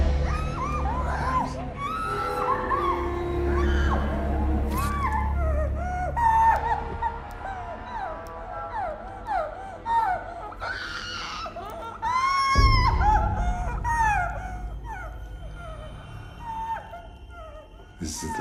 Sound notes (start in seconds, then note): 2.4 woman screaming; 4.9 knife slices; 10.6 woman screaming; 15.3 woman whimpering